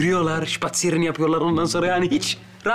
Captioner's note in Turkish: Almanca konuşma